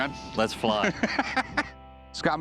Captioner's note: laughter